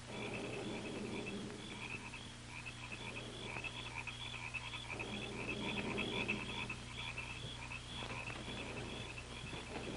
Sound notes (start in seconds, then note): 1.0 crickets chirping